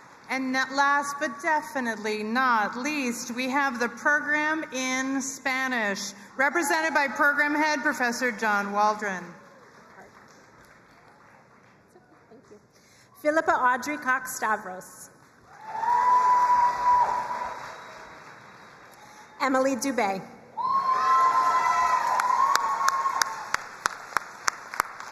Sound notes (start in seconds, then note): 0.0 crowd cheering and applauding; 15.4 crowd cheering and applauding; 20.5 crowd cheering and applauding